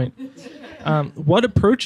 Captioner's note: laughing